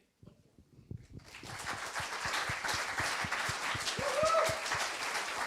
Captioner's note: applause